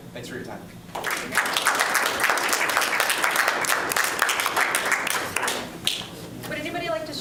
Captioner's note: applause